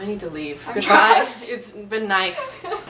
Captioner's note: laughs